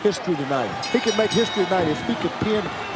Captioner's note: bell ringing